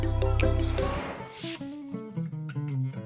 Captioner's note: whoosh